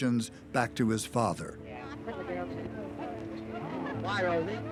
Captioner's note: kisses; indistinct chatter